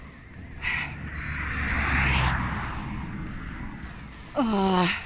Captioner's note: traffic